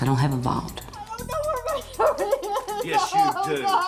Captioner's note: sobbing